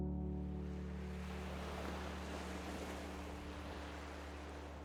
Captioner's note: waves crashing against the shore